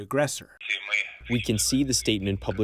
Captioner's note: through translator